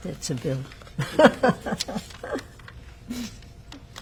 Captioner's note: laughing